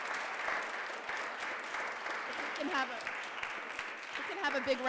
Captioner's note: audience applauding